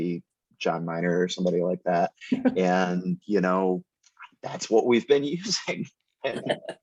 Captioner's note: laughter